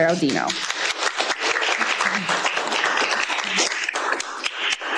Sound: applause

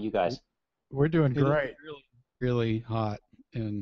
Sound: voiceover

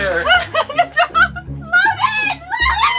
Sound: laughs

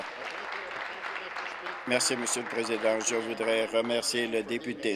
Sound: applause

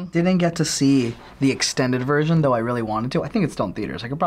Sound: none

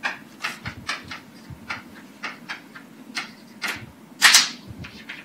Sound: chalk writing on chalkboard

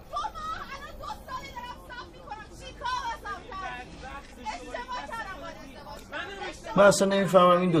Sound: neighbors arguing

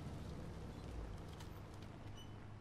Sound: none

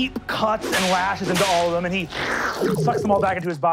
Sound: metallic slicing; gurgling

